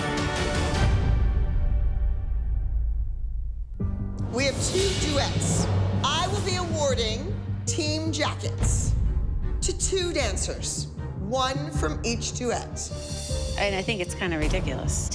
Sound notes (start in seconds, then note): none